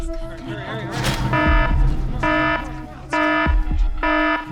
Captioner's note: alarm blaring